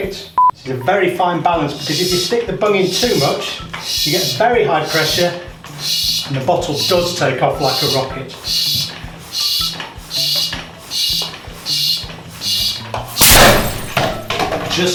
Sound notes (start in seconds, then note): 8.4 air pumping; 13.2 air rushing and glass breaking